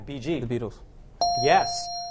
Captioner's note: correct answer chime